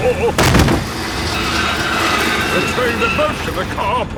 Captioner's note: thud